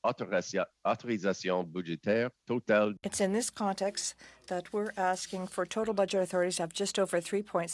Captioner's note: speaking French